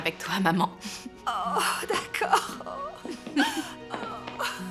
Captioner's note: laughing